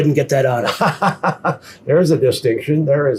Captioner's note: laughing